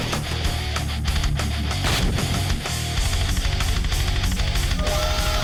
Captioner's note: explosion booms; moaning